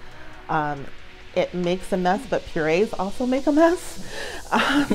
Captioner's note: laughs